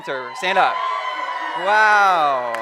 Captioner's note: cheering